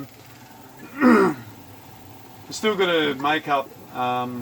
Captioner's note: clears throat